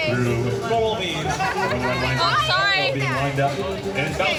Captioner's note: laughter